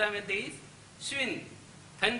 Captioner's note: speaks Chinese